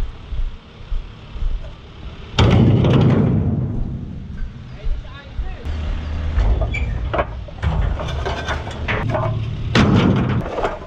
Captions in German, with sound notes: [KRAAAACH] Ey, nicht einzeln! [KRACH]